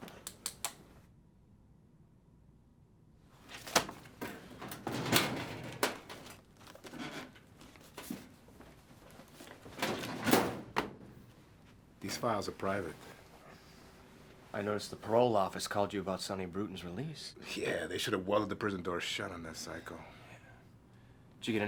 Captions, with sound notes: (pen taps) (file folder thuds shut) (drawer clatters open) (file folders rustling) (cabinet creaks) (drawer slams shut) These files are private. - I noticed the parole office called you about Sonny Bruton's release? - Yeah, they should have welded the prison door shut on that psycho. - Yeah.